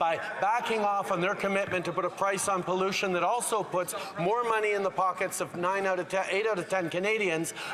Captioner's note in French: voix de l'interprète